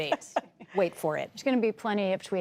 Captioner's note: laughter